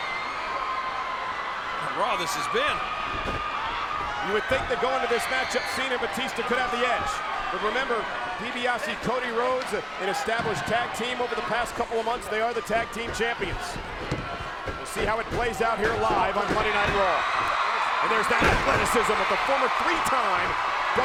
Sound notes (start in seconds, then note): 3.4 crowd cheering; 3.4 feet thudding; 18.2 body thudding